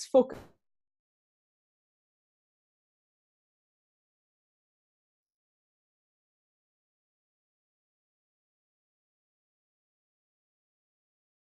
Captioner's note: lost audio, lost internet connection